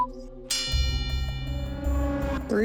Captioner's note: bell dings